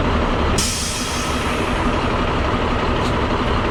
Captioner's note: loud hiss, engine puttering